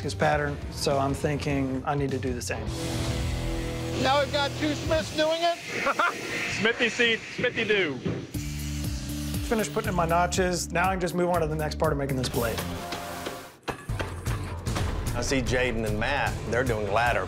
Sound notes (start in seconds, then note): 5.8 laughs